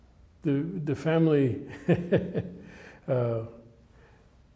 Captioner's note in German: lacht